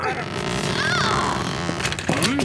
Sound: grunting

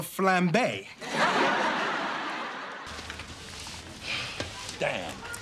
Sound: audience laughing

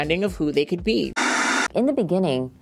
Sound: white noise static plays

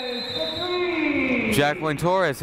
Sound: whistle blowing

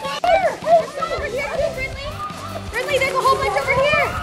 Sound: people talking

